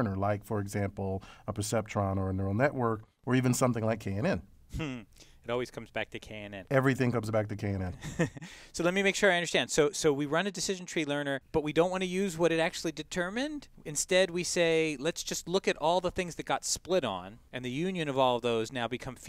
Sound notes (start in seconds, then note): 8.0 laugh